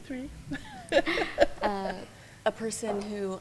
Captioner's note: laughing